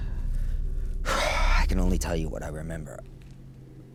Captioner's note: exhales deeply